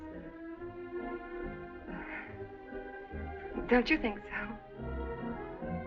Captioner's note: laughs